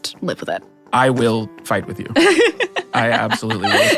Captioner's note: Adelaide laughs